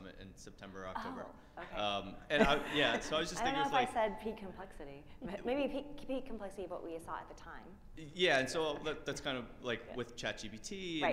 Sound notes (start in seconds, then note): 3.9 faintly speaking